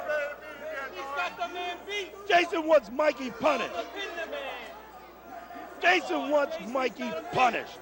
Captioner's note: crowd chatter